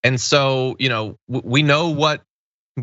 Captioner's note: laugh